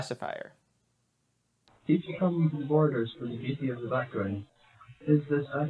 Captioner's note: distorted